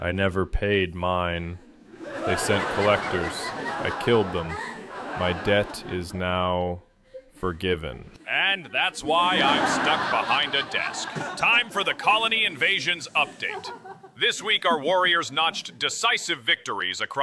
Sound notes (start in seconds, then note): 6.2 audience bursts out laughing, big applause; 9.0 audience cheers